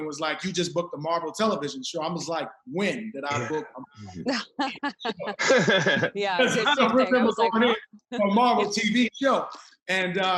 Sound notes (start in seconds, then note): 4.9 laughs